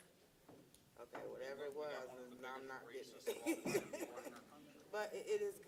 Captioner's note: laughs